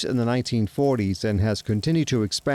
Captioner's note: sparks crackling